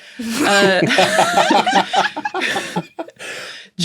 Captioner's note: group laughs heartily